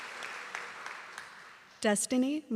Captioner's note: applause